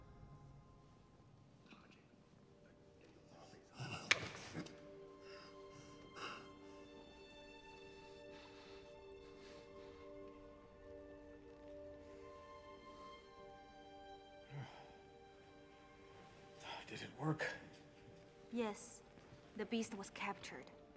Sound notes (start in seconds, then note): 5.1 breathing heavily; 14.4 william sighs